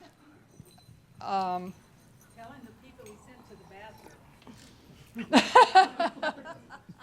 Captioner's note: chuckles